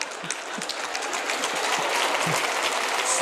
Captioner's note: applause